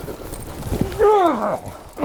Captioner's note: groans